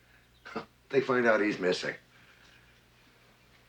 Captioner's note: chortle